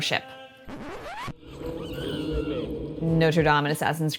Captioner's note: record scratch, an NPC screaming